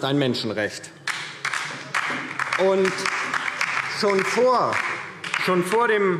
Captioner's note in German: Beifall DIE LINKE